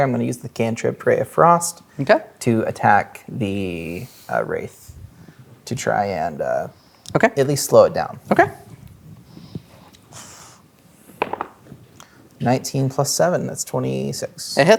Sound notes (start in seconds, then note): 11.1 dice rolling